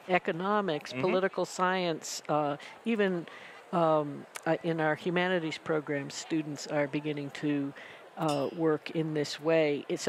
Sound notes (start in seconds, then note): none